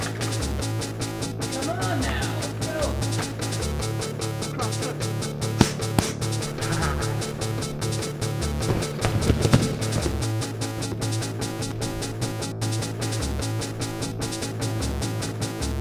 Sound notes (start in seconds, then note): 7.8 whippy panic noises; 8.6 thud